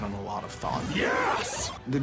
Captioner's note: power-Up sound